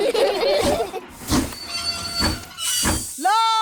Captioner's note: laugh; train chugs